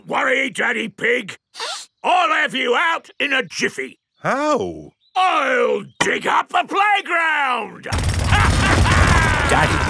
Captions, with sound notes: Don't worry, Daddy Pig! (SNIFFS) I'll have you out in a jiffy! How? I'll dig up the playground! (DRILLING AND LAUGHING)